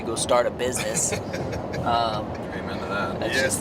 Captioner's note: laughing